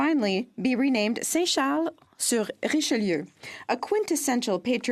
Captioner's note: speaking French